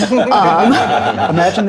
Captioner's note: audience laughing